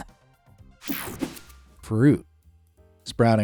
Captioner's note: air fizzing